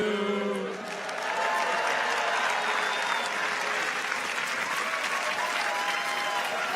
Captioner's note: people cheer; audience applauds